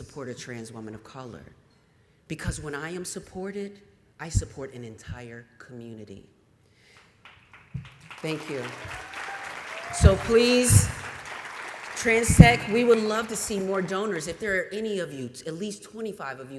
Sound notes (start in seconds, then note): 6.9 applause